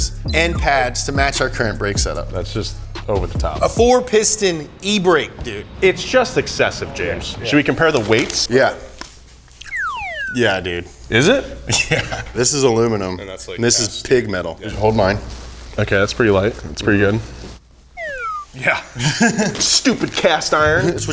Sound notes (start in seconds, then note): 9.6 whistle blows; 11.5 laughs; 18.0 whistle blows; 18.9 laughs